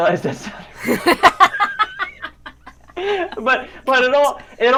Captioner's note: both laugh